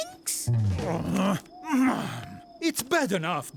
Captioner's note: groaning